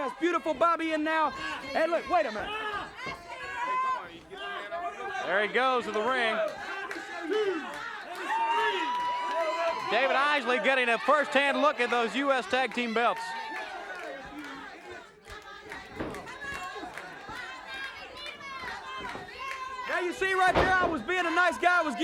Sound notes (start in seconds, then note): 16.4 audience hollers